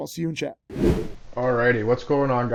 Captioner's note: slide whooshes